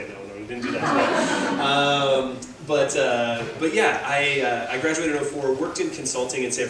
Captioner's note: laugh